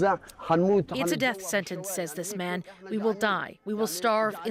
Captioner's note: speaking alternate language